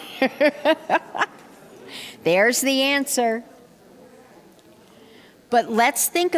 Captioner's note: laughter